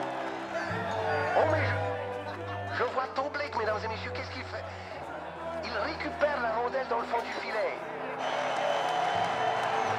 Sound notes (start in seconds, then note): 2.7 radio